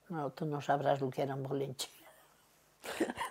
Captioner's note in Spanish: Ríe